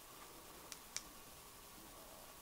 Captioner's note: clicking